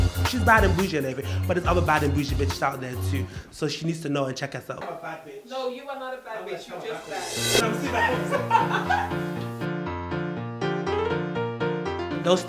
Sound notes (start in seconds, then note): 7.7 laughing